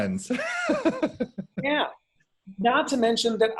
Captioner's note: laughs